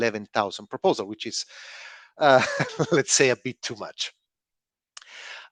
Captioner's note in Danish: laughs